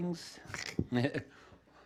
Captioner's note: chuckling